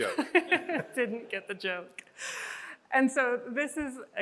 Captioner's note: chuckles